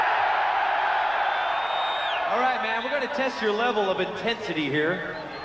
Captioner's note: crowd cheering